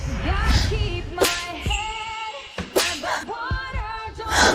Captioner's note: panting